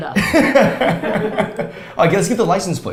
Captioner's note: both laughs